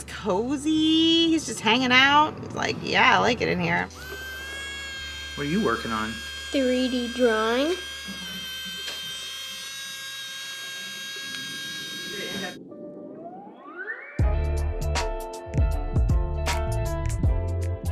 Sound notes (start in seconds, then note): 7.9 3D pen buzzing; 12.6 background music